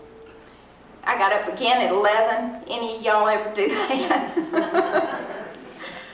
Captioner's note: laughs